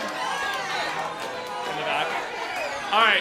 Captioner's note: cheers and applause